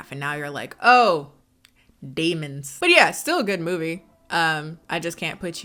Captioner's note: none